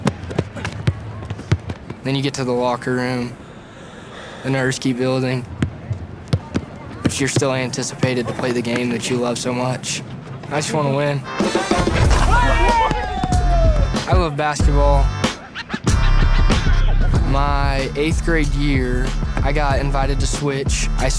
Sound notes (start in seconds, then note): 1.2 steps and ball thudding; 11.3 upbeat music starts; 11.4 players shouting; 15.3 upbeat music continues